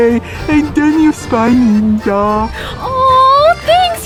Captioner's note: voice muffled